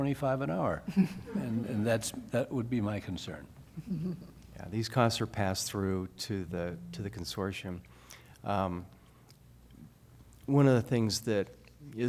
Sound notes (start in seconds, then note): 3.8 laughter